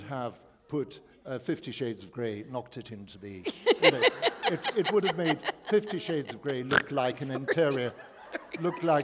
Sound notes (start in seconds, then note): 3.4 laughter